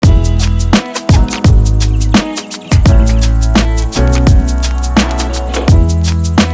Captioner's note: mellow music; birds chirping